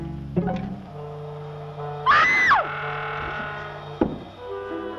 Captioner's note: scream